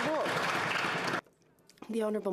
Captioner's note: some Applause